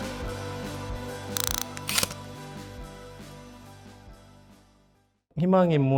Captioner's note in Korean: 다이얼 소리